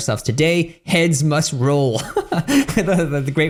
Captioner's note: laughs